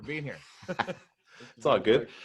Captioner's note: chuckles